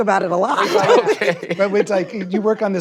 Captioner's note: laughs